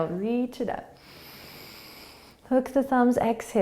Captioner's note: inhaling